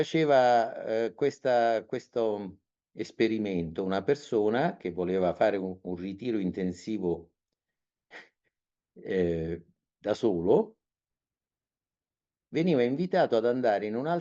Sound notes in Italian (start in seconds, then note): 9.0 sbuffare